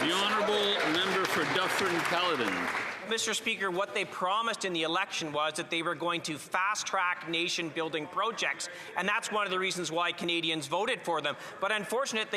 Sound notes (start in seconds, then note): 3.7 some Applause